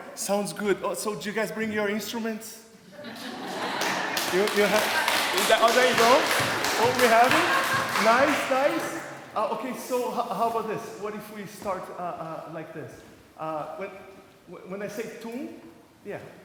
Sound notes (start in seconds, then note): 2.9 laughter